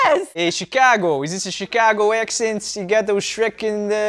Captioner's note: attempting Chicago accent